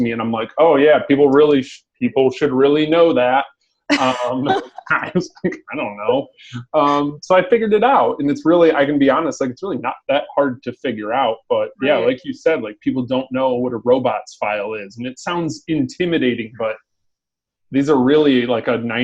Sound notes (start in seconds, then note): 3.9 laughing; 5.9 chuckles